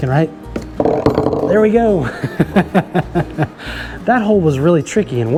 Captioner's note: laughs